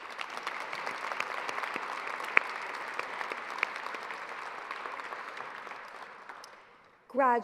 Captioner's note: applause